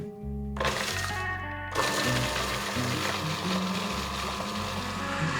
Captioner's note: processor whirring